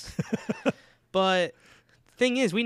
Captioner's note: laughing